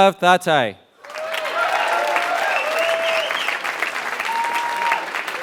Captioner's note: applause